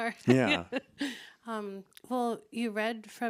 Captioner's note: laughs